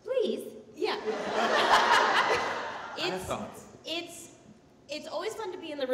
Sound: audience laughing

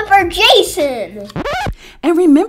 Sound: record scratch

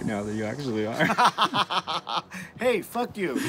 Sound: laughter

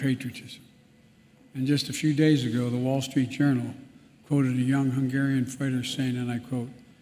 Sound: Ukrainian

